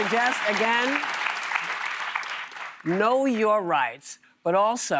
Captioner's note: applause